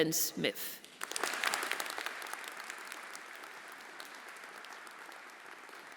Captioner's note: everyone applauding